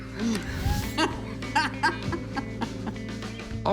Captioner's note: laughs